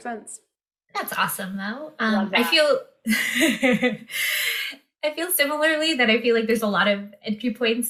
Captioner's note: laughter